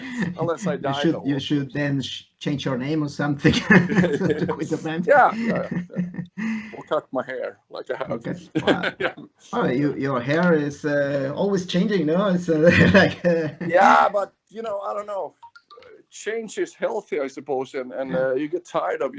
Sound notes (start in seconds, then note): 0.0 laughs; 6.0 laughs